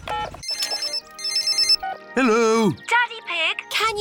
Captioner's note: phone rings